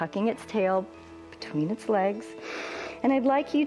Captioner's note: inhales